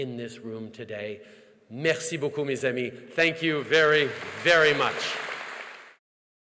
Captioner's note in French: Applaudissements